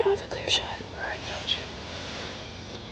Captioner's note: whispering